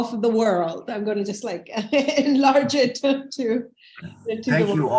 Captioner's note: chuckles